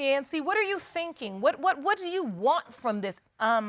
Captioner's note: stammers